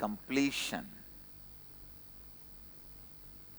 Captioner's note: hindi